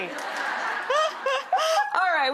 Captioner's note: all laughing